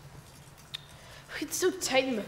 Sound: Flame tuts

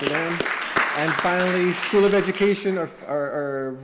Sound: applause

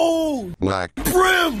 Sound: Microsoft SAM voice

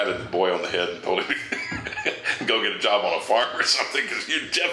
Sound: chuckles

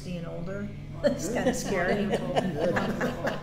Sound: laughter

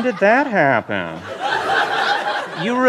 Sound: laughter

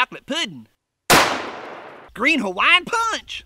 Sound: gun fires

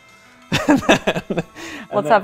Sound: laughs

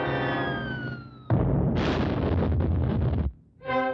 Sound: explosion

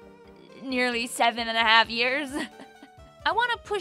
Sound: laughs

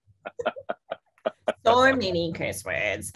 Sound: laughing

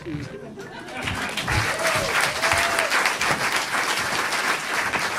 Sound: audience applauding

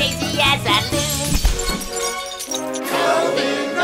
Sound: crash

